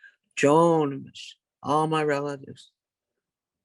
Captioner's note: speaks in native language